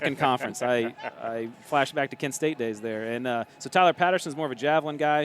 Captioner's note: laughter